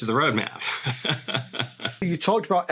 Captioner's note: laughs